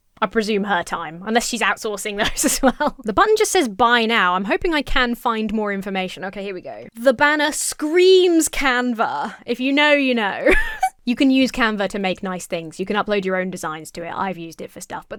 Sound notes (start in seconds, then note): 10.4 laughs